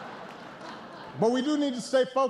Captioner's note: laughter